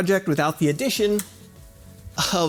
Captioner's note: switch click